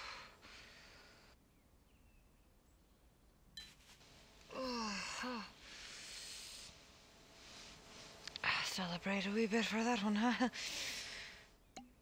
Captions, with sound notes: (Brigit groans) - Celebrate a wee bit for that one, huh?